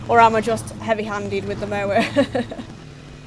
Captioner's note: laughs